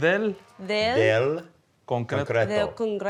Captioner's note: speaks in Spanish